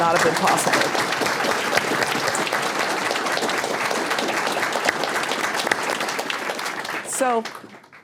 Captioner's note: applause